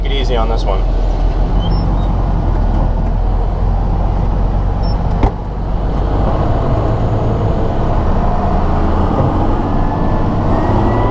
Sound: engine noise

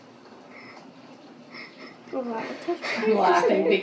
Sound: laughs

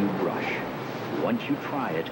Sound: rushing water

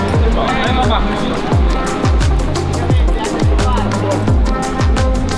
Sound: other climbers chattering

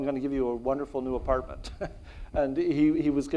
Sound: laughs

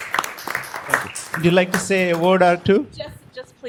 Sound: cheers and applause; applause

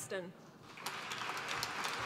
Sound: applause

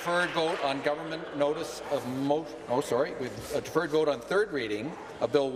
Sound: applause

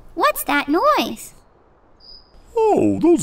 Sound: chirping noise in chimney

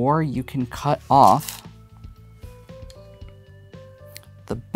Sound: stones rattling

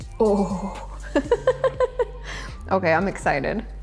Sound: laughs

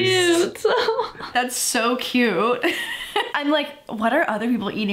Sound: laughs

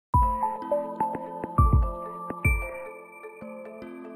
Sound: gentle bells

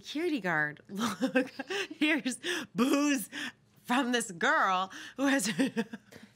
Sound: laughs

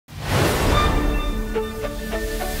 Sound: air whooshing

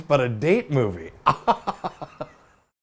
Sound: laughs

